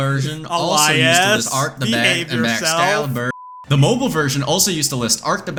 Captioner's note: southern accent